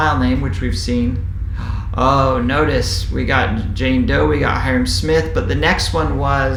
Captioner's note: sigh